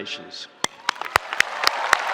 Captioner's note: spectators applauding; spectators cheering